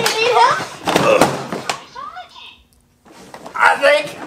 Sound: mechanic grunts; car crashes

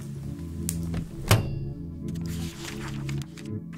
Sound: crackling; banging; paper riffling

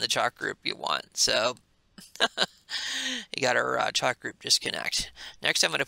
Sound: laughs

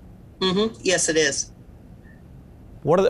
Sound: agreeing sound

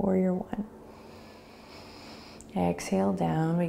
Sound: inhaling

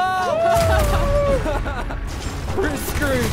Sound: laughter

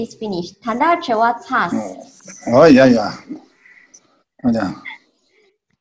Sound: speaks in foreign language

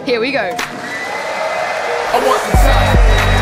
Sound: crowd cheering

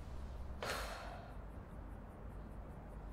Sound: relieved sigh

